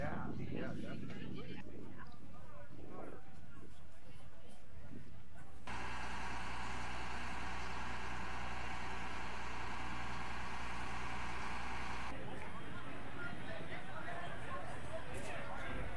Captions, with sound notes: - Yeah, yeah, definitely. (crane cranking) (crowd chattering)